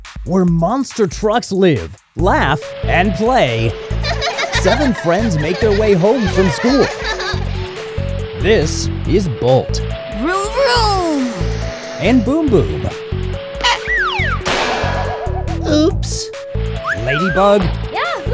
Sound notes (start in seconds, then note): 14.1 crashing